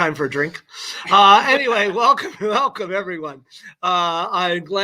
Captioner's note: laughter